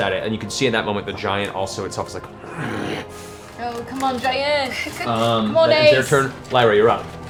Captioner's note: growls